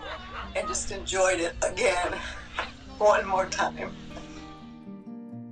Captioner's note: crying